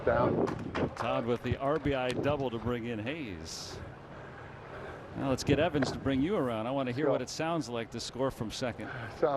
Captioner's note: laughing